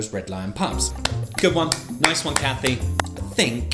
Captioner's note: clapping